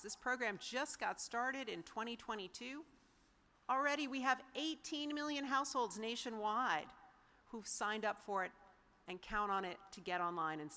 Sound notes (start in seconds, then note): none